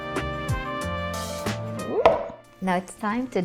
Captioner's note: bowl thud